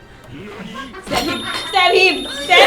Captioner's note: laughs